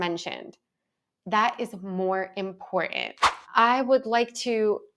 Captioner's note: screen whooshes